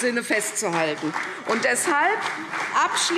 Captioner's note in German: Beifall CDU und BÜNDNIS 90/DIE GRÜNEN - Widerspruch Freie Demokraten